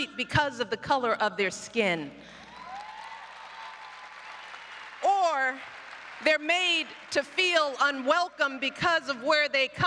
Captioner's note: applause